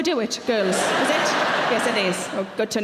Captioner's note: audience laughing